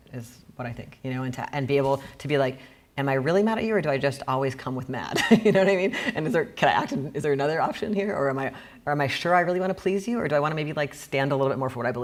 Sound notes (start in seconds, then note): 5.4 laughing